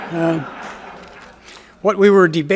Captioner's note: audience laughs